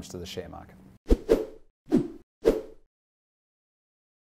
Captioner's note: whip swishing